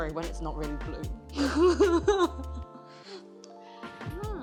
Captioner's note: chuckles